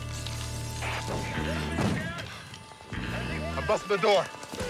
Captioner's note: voices over radio